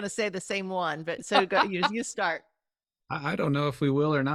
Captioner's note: chuckling